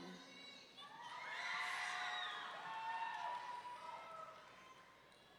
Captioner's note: audience cheering